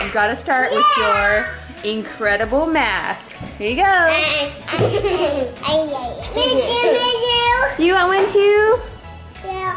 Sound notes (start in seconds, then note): 4.3 girls laugh